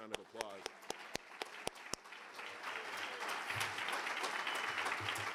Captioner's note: audience applauding